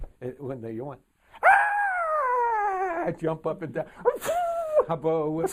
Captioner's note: pheeww